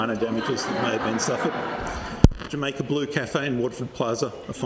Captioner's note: laughter